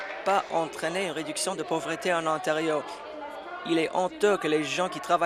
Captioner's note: applause